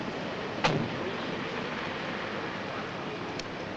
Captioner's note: door slams